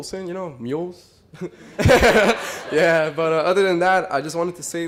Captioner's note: laughter